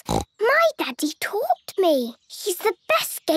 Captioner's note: snorts